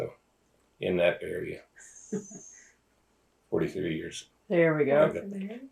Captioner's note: laughter